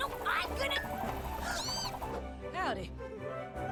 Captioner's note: gasps